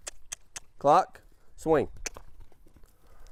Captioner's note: clicks tongue